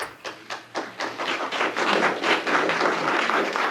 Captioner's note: applause